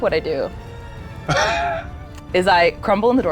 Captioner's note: laughing